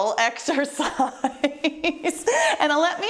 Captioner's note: laughter